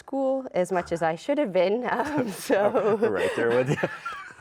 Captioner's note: laughs